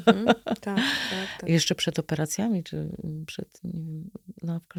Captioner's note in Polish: śmiech; wciągnięcie powietrza